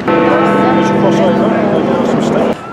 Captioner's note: Big Ben rings